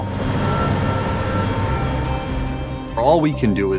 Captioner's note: traffic rumbling